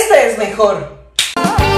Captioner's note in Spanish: Chasquea los dedos